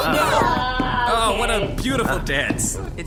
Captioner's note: thudding sounds as dances around